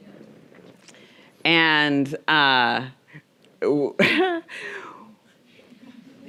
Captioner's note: chuckles